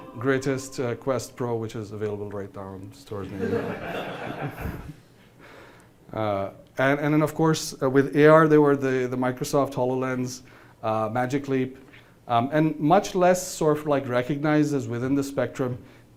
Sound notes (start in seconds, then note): 3.3 laughing